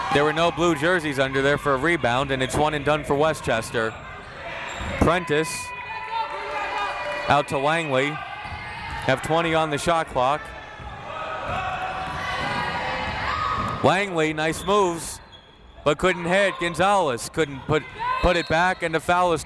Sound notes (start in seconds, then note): 11.2 crowd members shouting; 18.3 whistle tweeting